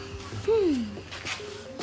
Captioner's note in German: Seufzen